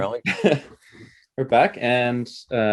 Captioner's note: chuckles